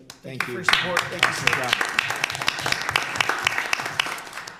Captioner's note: applause